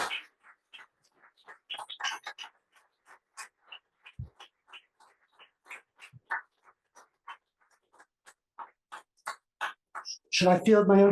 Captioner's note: applause